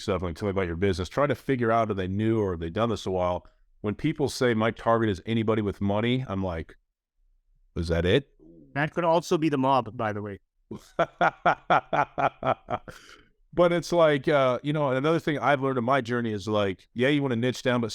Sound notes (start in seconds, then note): 10.7 laughs